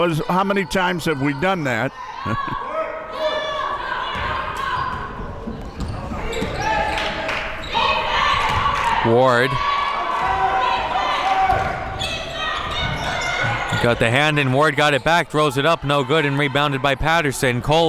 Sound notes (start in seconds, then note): 2.2 laughs; 7.0 hands clapping